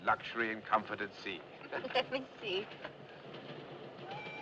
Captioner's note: Risos